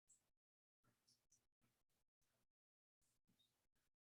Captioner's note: none